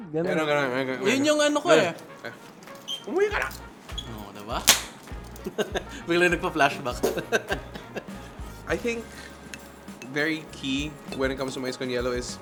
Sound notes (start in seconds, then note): 5.3 laughs